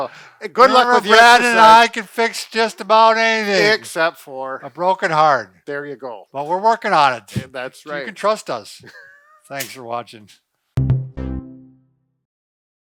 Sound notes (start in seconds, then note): 8.8 laughing; 11.6 band snapping